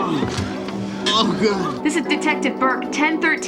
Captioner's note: groans